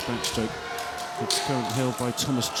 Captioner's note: applause